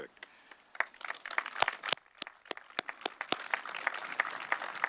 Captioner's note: audience clapping